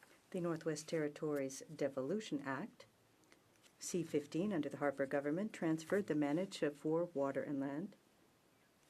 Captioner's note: speaking french